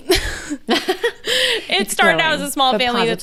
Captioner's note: laughing